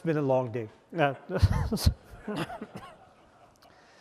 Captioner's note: laughter